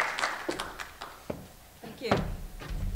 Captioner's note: applause